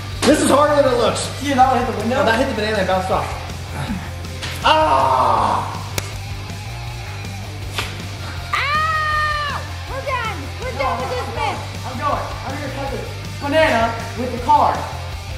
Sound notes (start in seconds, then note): 0.0 upbeat music; 3.2 groans; 3.8 upbeat music; 5.8 upbeat music